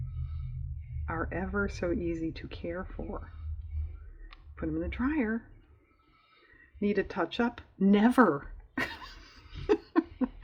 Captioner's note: laughs